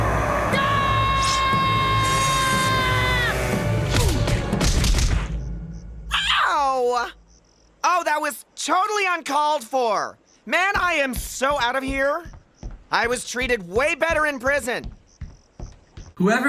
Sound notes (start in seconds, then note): 4.2 GWEN screams